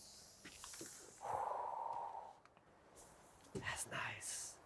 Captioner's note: speaker exhaling